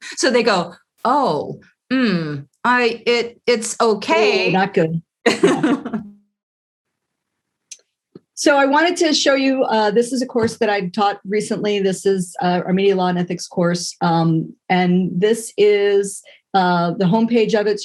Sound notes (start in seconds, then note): 5.3 laugh